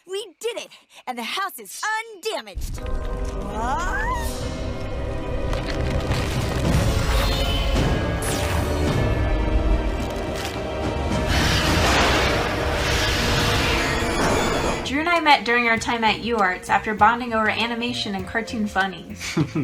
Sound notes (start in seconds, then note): 3.1 suspenseful music; 11.9 thunder claps